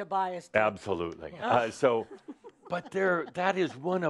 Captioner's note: giggles